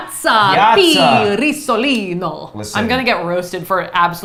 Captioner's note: both speaking foreign language